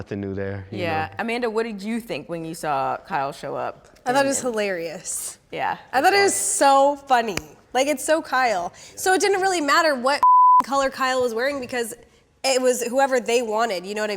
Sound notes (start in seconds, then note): 10.2 beep